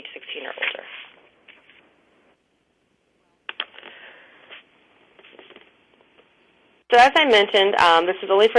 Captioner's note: pause